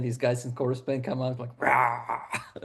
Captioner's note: growls